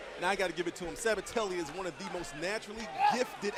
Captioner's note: crowd chatter